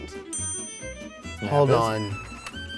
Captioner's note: ping